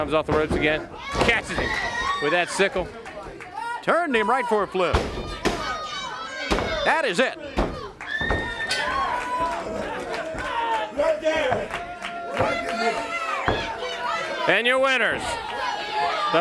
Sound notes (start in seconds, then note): 8.3 bell ringing; 10.3 crowd cheering